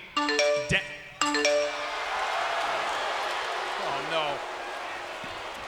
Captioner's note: email ringing